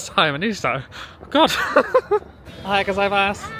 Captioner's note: laughing